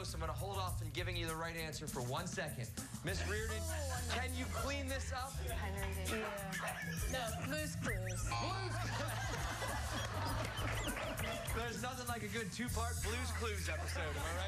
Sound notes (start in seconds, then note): 8.3 laughter